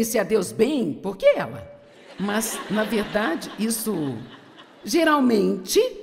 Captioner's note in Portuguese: audiência ri